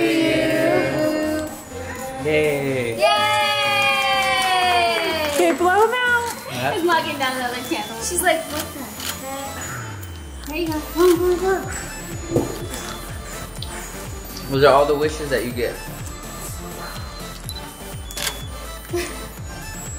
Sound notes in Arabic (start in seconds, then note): 4.0 تصفق